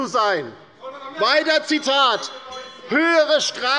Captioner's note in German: Zurufe des Abg. - Glockenzeichen des Präsidenten